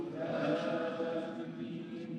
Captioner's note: crowd respond is Arabic